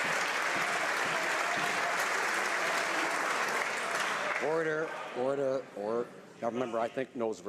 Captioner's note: some Applause